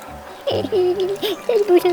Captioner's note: sobbing